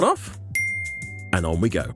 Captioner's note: ding!